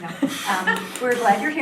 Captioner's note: laughing